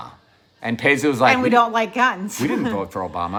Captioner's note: chuckling